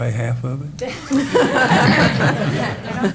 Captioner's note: laughter